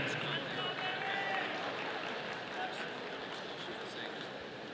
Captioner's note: audience applauding